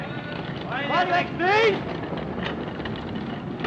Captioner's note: man shouts